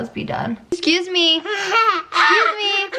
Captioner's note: laughing